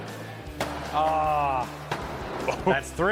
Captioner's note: axe banging